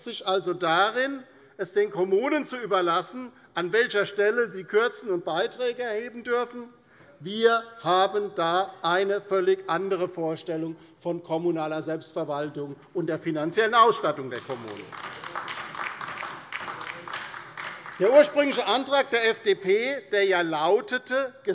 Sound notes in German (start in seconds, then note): 14.2 Beifall bei der LINKEN